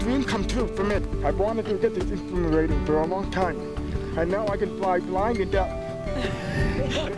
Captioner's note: laughter